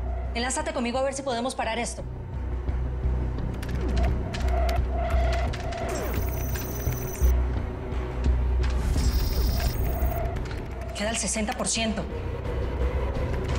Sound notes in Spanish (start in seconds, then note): 5.1 Sonidos al teclear